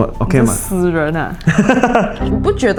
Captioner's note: laughter